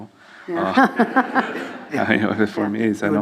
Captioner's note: laughs